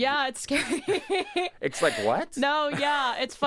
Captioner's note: laughs